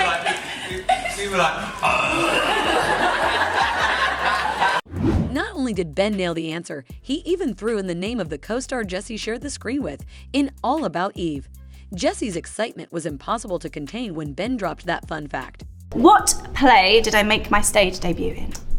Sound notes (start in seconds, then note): 2.1 laughter